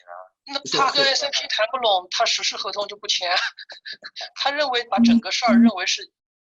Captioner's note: speaks in a foreign language